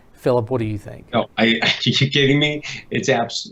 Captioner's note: laughs